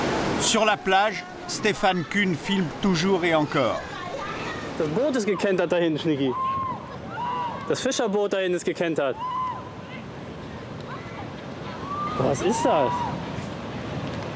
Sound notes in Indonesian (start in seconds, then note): 7.2 suara teriakan